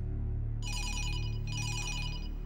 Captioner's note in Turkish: Telefon zili